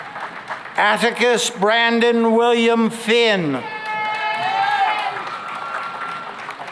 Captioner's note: cheering and applause